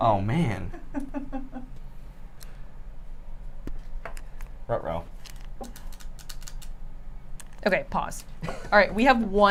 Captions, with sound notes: - Oh man. Ruh-roh. (clicking scoopers) - Okay, pause. All right,